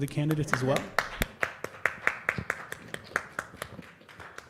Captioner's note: applause